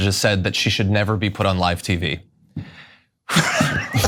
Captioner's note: laugh